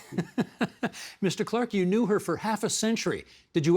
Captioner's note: laughing